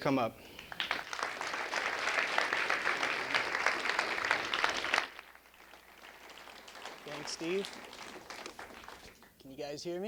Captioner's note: applause